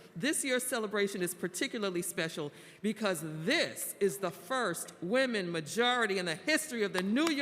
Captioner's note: applause